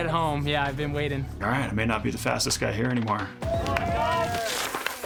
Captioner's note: crowd cheering